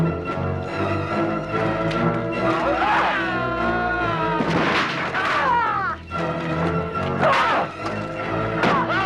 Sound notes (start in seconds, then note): 2.6 guard screaming; 2.9 Hundra grunts; 5.3 Hundra grunting